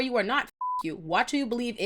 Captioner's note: beep